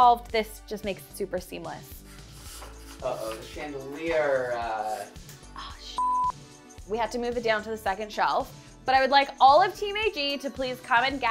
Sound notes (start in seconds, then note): 5.7 whispering; 5.9 beep